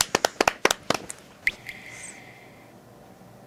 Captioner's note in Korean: 정적